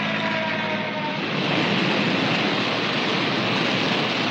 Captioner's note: fire crackling